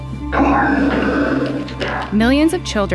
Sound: sigh

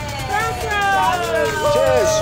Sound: cheers

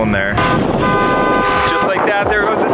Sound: car horn blaring

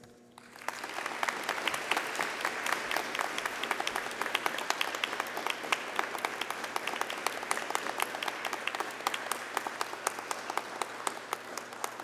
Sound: applause

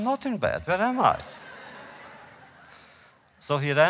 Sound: laughter

